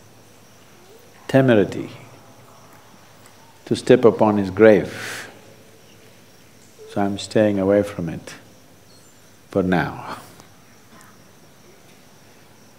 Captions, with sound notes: temerity to step upon his grave, so I'm staying away from it, for now (Laughs).